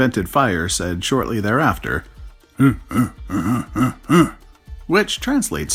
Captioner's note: grunt, grunt, grunt